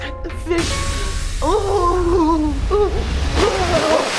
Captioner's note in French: son d'éclaboussement et gémissements